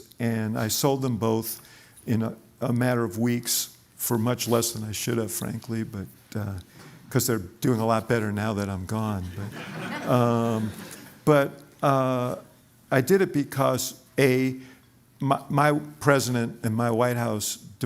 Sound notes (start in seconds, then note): 9.3 laughter